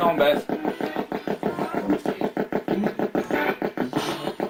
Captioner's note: ghost box buzzing